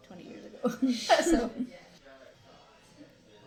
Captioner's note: both laugh